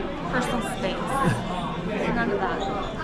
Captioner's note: laughs